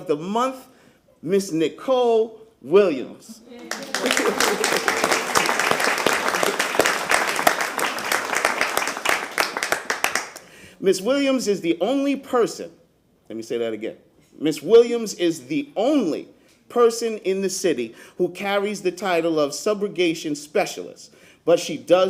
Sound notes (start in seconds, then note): 6.2 applause